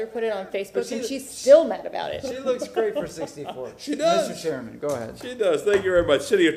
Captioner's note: laughter